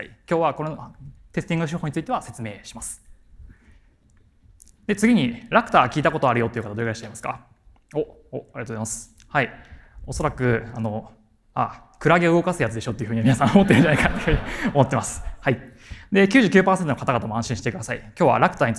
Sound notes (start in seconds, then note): 13.2 chuckles